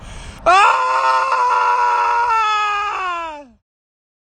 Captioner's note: terrified Scream